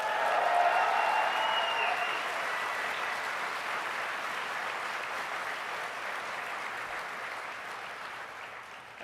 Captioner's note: applause